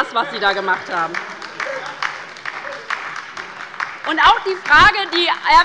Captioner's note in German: Beifall bei der LINKEN und der SPD